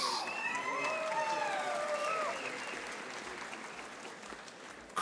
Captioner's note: audience applauding